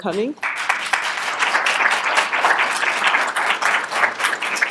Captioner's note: applause